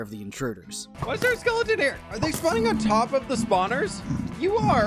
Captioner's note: fwhip